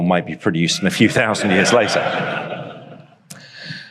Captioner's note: audience laughs